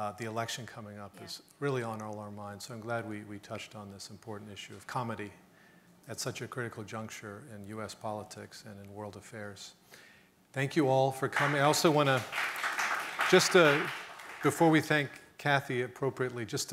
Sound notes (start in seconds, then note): 11.3 audience clapping